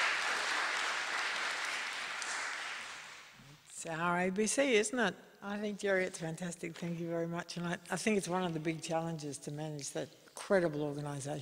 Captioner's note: applause